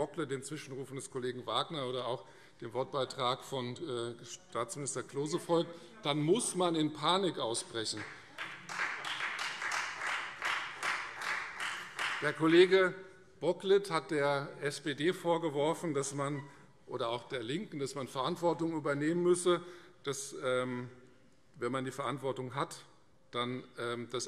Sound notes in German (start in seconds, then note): 7.9 Beifall Freie Demokraten und vereinzelt SPD